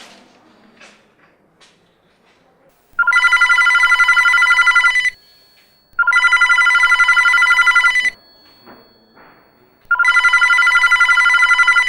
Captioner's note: phone bell rings